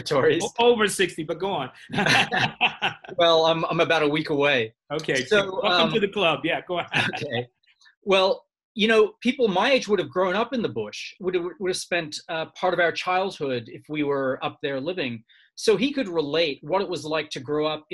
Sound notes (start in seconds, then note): 1.8 laughing